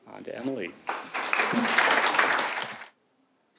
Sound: applause

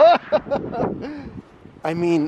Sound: laughing

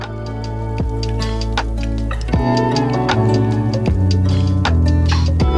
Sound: fire Crackle

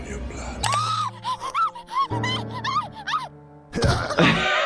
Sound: character screaming; laughs

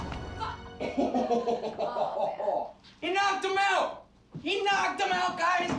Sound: laughs

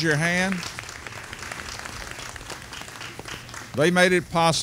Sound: audience applauding

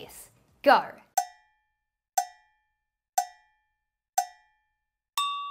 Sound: cowbell clanging

